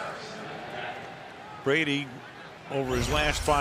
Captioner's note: announcer on pa